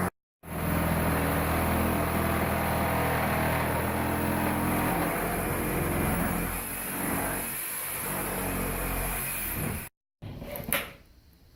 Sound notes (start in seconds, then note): 0.4 saw cutting; 10.2 drilling